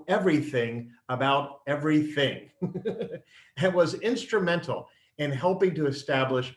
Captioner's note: laughs